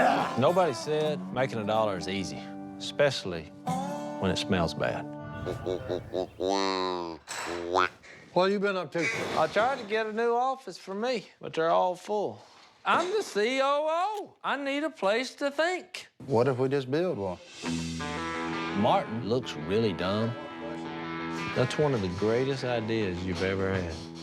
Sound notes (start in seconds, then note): 5.3 low-pitched duck call